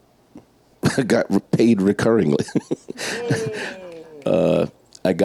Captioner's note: laughs